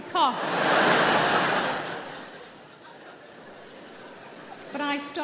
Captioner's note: audience laughing